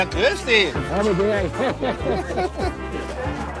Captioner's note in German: Beide lachen